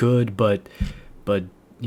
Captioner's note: another inhale again